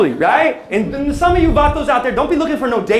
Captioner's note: non-english speech